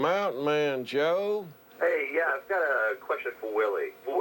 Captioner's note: on phone